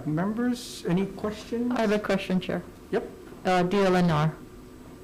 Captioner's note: none